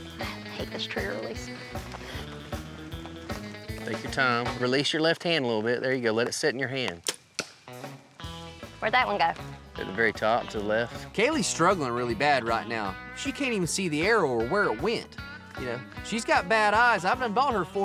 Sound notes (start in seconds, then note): 7.0 arrow shot